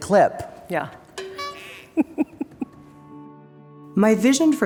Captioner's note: giggles